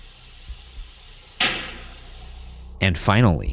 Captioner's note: object bangs